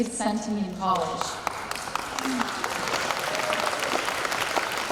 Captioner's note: applause